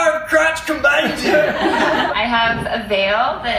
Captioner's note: everyone laughs